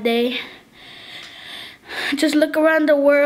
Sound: breathing deeply

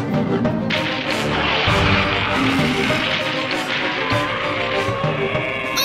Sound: growling

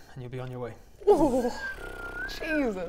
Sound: pffffff

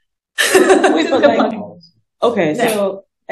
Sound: laughter

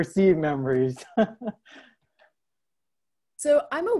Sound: laughs

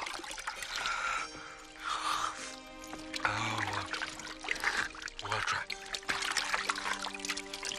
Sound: drinking

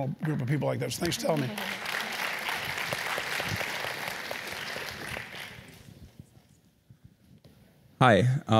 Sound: applause

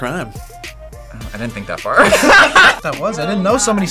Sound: group laughs

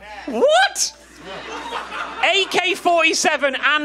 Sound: audience laughing

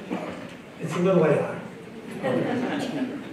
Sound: laughter

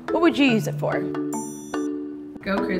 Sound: dinging

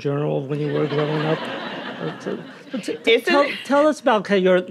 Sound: audience laughing

